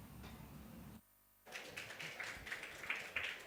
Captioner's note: applause